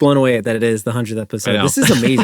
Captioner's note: laughs